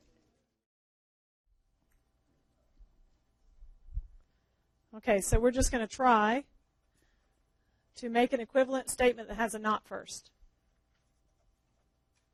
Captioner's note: long pause